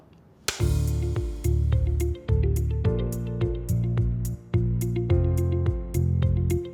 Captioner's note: clapper clapping; bright music